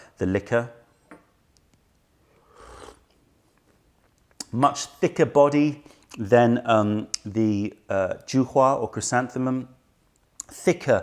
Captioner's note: sips tisane